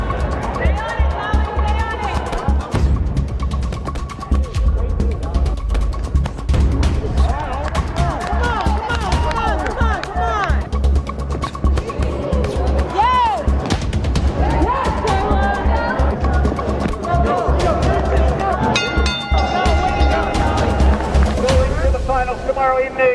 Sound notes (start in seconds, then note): 18.7 bell ringing